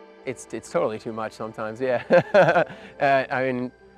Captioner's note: chuckles